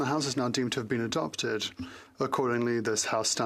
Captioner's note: speaking French